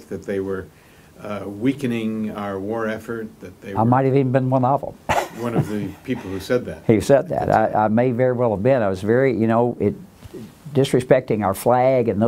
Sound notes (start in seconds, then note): 5.0 laughs